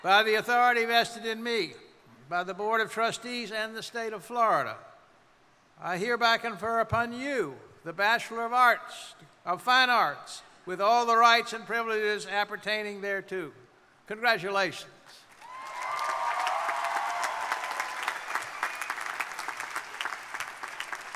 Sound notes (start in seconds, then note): 15.3 crowd applauding; 15.4 crowd cheering